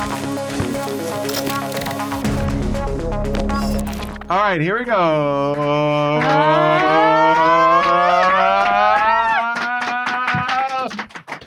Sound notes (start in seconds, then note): 0.0 ominous electronic music; 6.0 claps; 7.0 group exclaiming